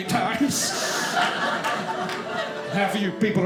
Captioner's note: audience laughing